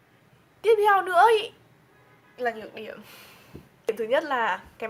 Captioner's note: exhales